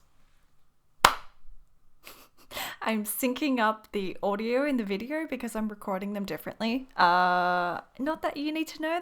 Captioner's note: clap